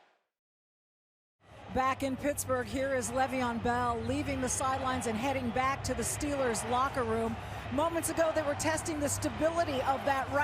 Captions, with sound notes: Back in Pittsburgh here is Le'Veon Bell, leaving the sidelines and heading back to the Steelers locker room. [crowd chanting] Moments ago, they were testing the stability